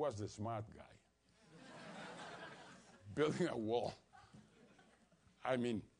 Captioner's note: laugh